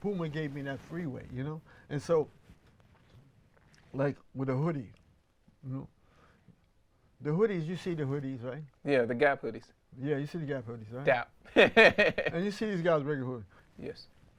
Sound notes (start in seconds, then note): 11.6 laughs